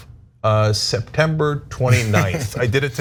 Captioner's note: laugh